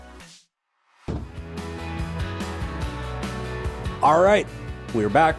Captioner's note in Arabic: صوت الشاشة; موسيقى مبهجة